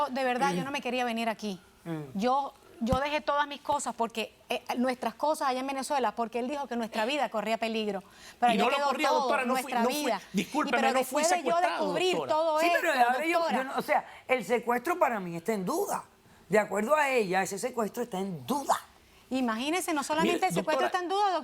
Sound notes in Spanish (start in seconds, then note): 9.2 Hablan al unísono